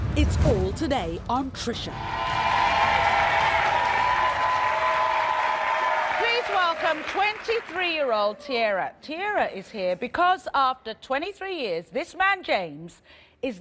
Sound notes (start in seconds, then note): 1.9 cheering